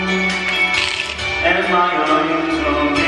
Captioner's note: crunch